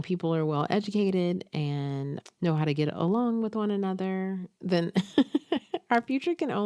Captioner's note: chuckles